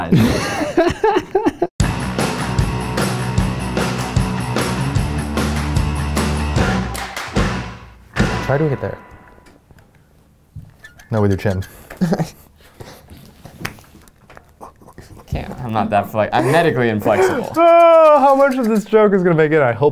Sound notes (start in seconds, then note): 0.7 laughing; 1.8 upbeat music; 10.6 squeaking